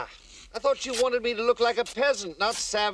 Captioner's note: fabric ripping